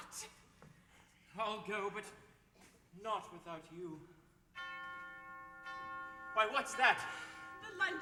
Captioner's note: bell rings